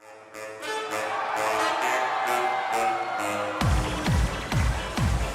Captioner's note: crowd cheering